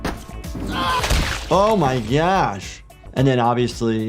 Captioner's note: victim grunting